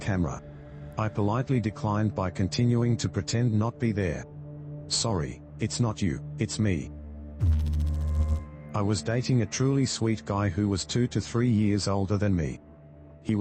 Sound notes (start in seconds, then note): 7.4 electrical noise